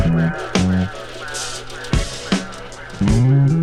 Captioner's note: projector whirls